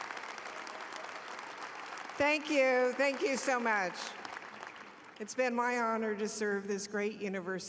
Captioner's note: applause